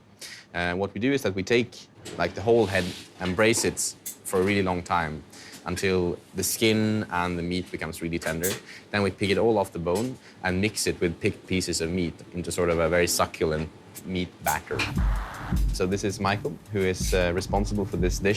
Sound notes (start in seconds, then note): none